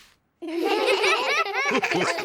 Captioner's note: all giggle